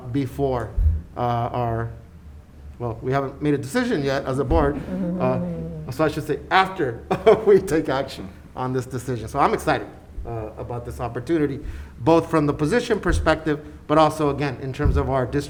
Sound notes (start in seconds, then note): 7.2 laughs